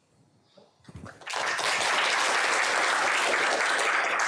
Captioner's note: applause